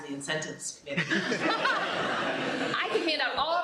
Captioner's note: laughter